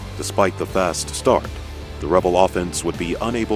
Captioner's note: voiceover